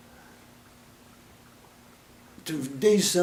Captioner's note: silence